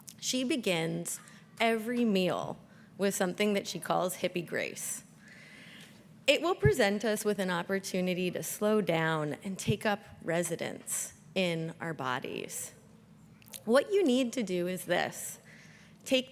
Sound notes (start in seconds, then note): none